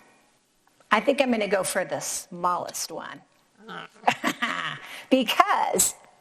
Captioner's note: laughs